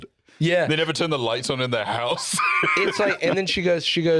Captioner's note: laughs